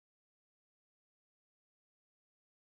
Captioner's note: none